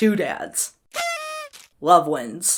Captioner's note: party favor toots